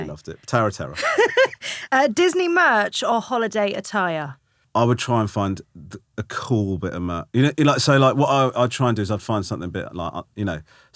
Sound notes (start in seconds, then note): 1.0 laughing